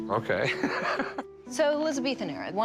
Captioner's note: laughs